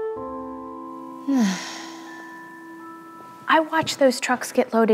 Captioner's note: sighing